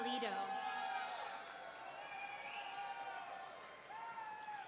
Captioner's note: audience cheering